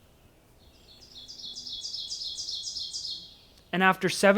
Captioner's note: birds chirping